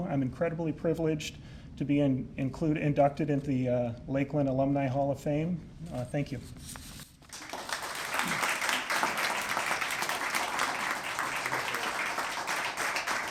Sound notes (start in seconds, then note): 7.2 applause